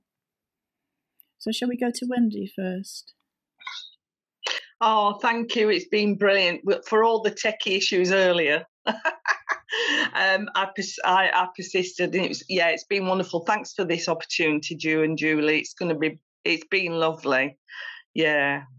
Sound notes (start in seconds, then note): 8.9 laughs